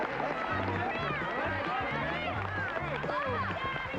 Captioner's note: overlapping chatter